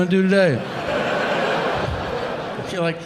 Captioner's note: audience laughing